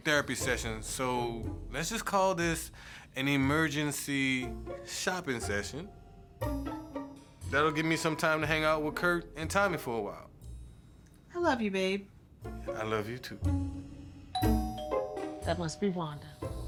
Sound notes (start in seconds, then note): 14.3 doorbell rings